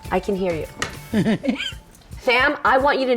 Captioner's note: laughs